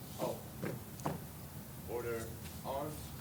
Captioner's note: footsteps cease